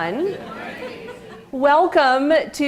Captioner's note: laughter